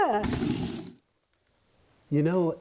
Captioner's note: scrapping